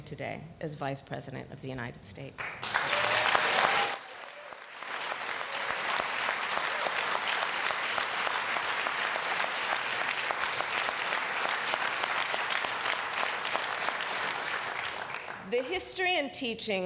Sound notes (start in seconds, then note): 7.4 applause